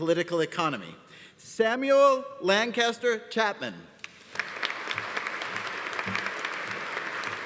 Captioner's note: audience applauding